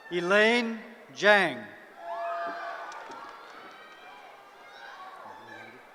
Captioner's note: cheering